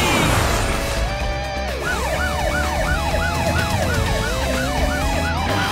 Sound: siren wailing

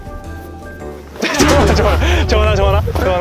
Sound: thud

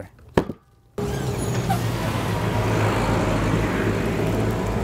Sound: motor rumbling

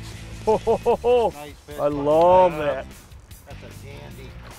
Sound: laughing

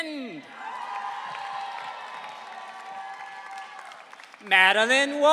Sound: audience cheering

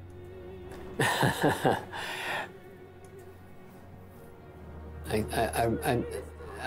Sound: laughs

